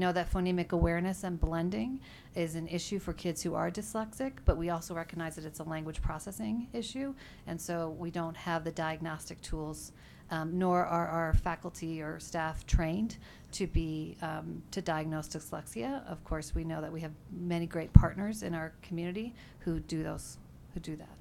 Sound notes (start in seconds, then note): none